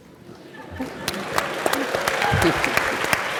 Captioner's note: applause